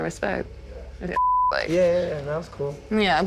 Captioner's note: beep